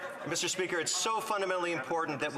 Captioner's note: laughter